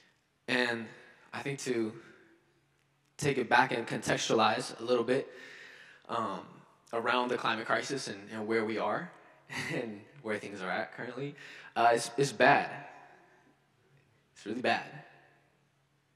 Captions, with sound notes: And I think to take it back and contextualize a little bit around the climate crisis and where we are, (chuckles) and where things are at currently, it's bad. It's really bad.